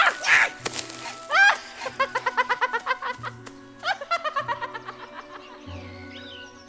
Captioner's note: giggling continues